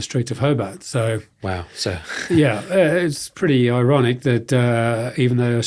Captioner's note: chuckles